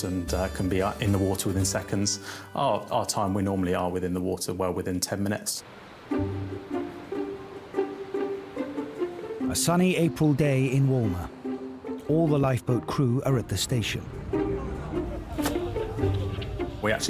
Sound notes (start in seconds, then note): 5.8 water rushing; 6.1 uplifting instrumental music; 13.2 people chattering; 13.8 uplifting instrumental music; 15.5 water splashing